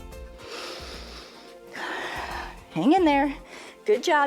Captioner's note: inhales and exhales